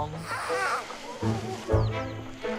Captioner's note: Jelapat squeaking; bright upbeat music